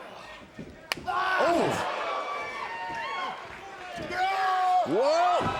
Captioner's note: Sami yells